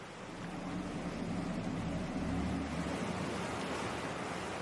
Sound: eerie noise

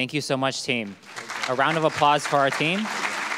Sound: audience clapping

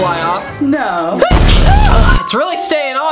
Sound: sneeze

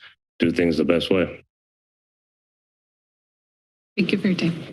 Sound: silence

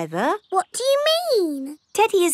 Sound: in normal voice

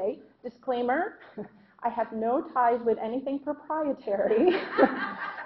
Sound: laughing

